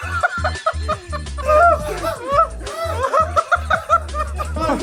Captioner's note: everyone falls to ground with laughter